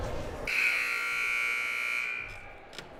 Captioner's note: buzzer blaring; crowd murmuring